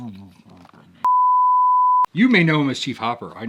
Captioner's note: beep